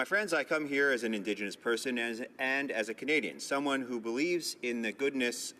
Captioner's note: speaking in native tongue